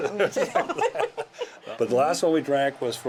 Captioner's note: laughing